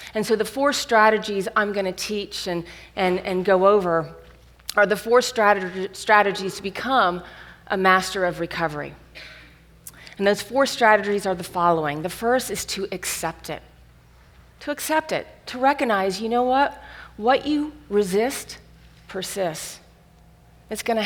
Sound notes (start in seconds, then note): none